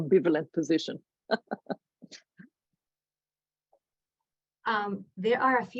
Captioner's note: laughs